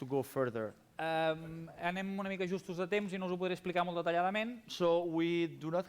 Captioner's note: non-english speech